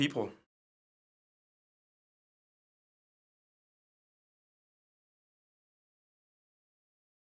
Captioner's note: silence